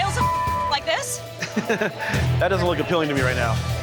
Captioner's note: chuckling